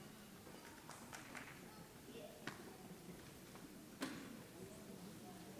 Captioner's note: audience chattering